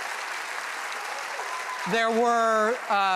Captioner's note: applause